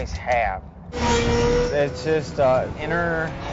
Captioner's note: car engine revving